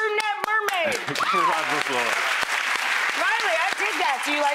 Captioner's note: audience applauding